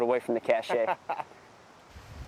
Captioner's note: marine laughs